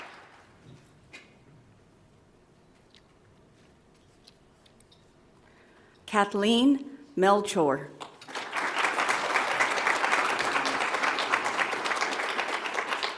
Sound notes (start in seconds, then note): 8.2 audience applauds